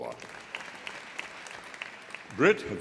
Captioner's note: audience applauding